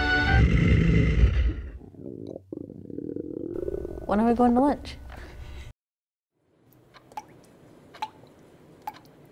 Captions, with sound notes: [bear growl] [stomach growl] When are we going to lunch? [ticking and dripping]